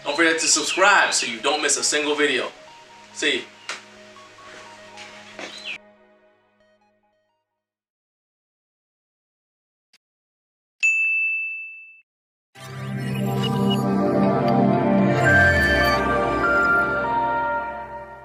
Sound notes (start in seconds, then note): 10.8 bell dings; 12.6 futuristic tune